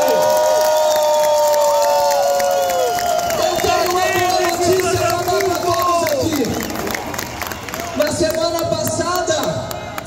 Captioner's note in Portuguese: Aplausos